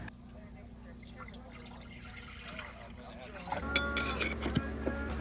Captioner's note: water splashing